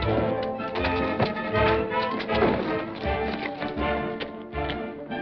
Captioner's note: dramatic music; punch thuds